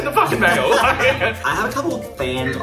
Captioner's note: both laughs